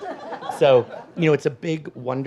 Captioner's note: audience laughs